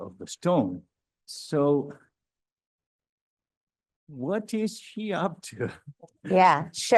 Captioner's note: chuckles